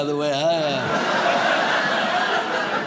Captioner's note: audience laughs